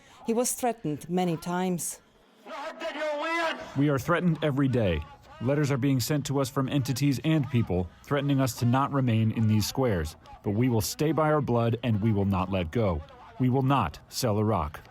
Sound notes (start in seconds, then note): 3.1 through translator